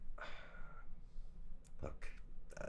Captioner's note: director sighs